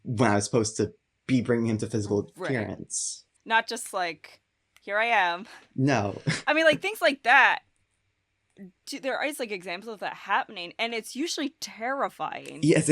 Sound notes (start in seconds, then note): 5.8 chuckles